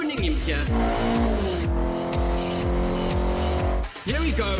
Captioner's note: cars revving